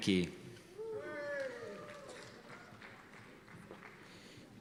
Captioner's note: cheers and applause